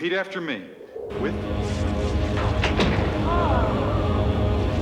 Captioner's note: rumbling